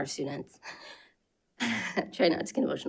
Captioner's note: sobs